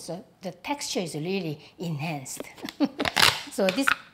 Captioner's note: laughs